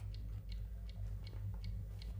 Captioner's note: clock ticking